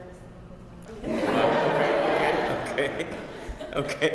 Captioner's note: laugh